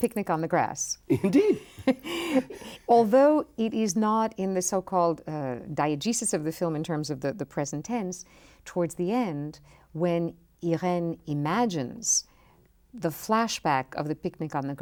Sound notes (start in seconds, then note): 1.1 laughs